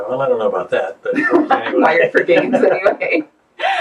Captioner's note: laughs